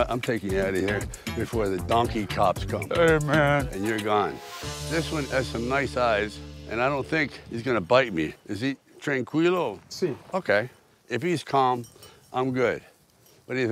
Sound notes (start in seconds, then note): 9.6 donkey owner speaks foreign language